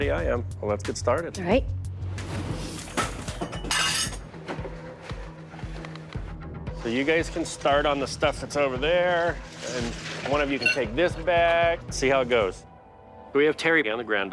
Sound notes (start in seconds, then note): 2.3 objects clattering; 2.3 tense music